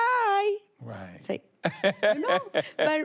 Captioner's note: laughs